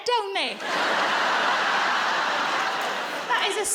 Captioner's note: audience laughs